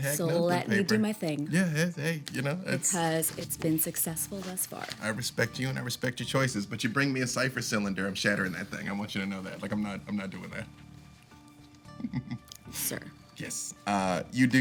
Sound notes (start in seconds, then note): 11.9 chuckles